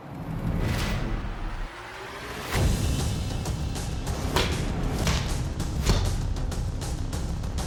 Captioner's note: impact sounds